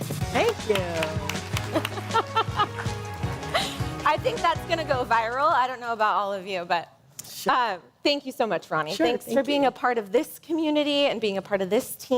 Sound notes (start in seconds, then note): 1.7 laughter